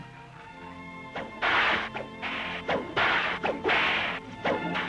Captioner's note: classical music; cracking whip